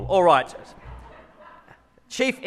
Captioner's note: audience laughs